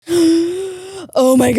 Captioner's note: gasps